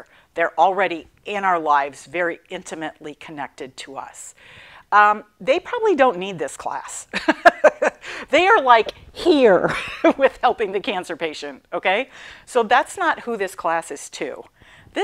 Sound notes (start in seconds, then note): 7.2 laughing